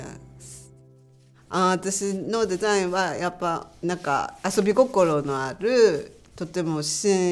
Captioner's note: speaking native language